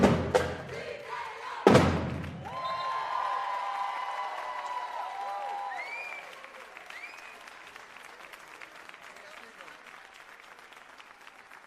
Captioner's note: cheers and applause